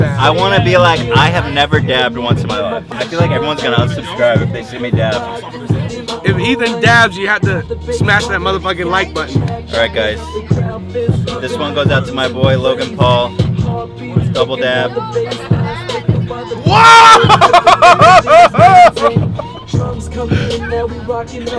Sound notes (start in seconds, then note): 19.1 dissolves into laugh